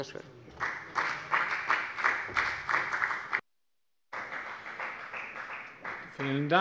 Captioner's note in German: Beifall bei der FDP